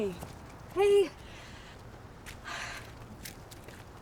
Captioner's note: footsteps approaching